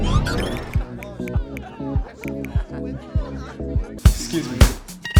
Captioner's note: phone typing clicking